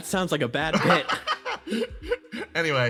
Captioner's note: laughs